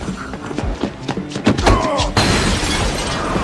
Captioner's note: dramatic music playing; both grunt